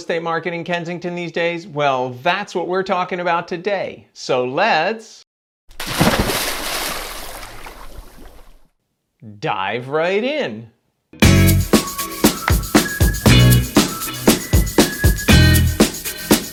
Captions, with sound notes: estate marketing Kensington these days? Well that's what we're talking about today. So let's (water burbling) dive right in. (dramatic upbeat music)